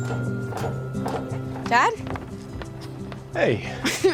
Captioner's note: footsteps approaching